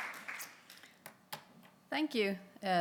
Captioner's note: applause